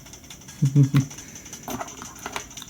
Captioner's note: chuckle